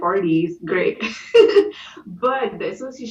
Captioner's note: laughter